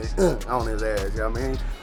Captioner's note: wrestler grunts